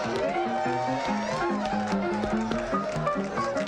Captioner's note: crowd cheering